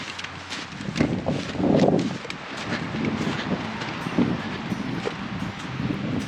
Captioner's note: books clunking and wind blowing; gentle music continues